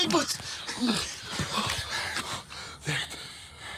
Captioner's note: Lukas panting